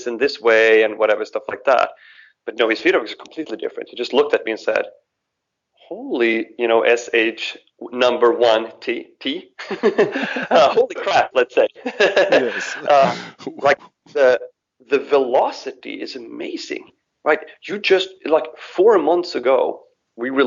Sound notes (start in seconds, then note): 9.6 both laugh; 13.0 laughs